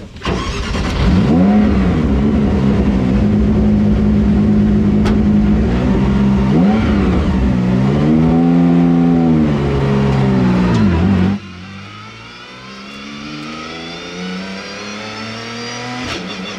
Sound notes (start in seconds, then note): 0.0 engine Starts; 5.6 engine Revving